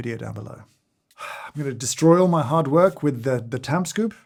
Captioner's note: huffs